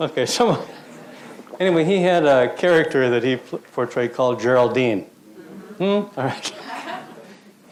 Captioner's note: crowd acknowledges; laughs; crowd acknowledges